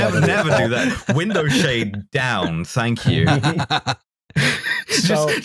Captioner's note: laughter